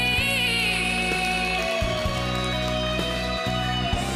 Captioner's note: applause